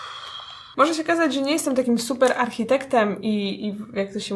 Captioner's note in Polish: wzdyyych